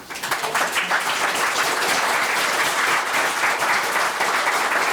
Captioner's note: members applauding